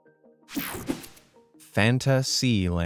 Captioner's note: screen whooshing